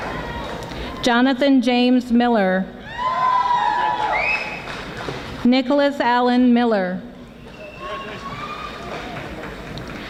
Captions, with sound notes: Jonathan James Miller (audience applauding) Nicholas Alan Miller